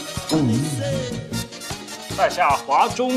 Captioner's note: talking, suddenly turns into a robot